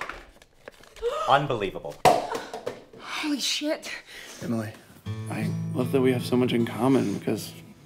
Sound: gasp

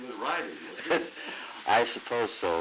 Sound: laughter

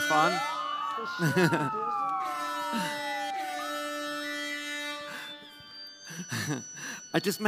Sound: siren

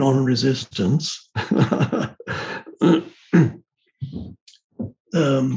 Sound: Eckhart laughing

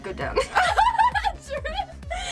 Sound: laugh

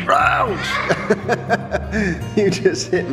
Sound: laughing

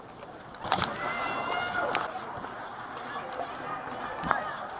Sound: hollering

